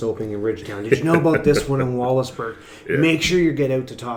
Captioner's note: laughs